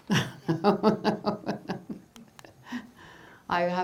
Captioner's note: laughing